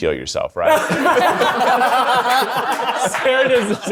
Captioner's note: everyone laughing